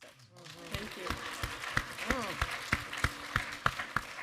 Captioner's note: audience applaud